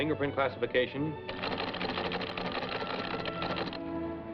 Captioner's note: teletype clacking